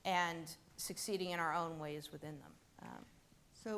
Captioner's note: none